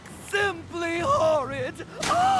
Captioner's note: sobbing